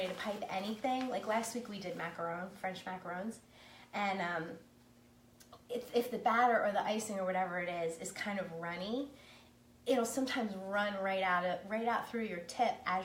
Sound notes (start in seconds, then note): none